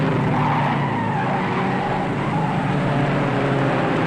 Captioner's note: tires squealing